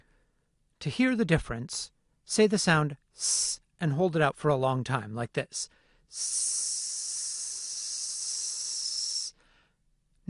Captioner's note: ssssss